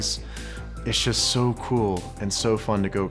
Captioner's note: none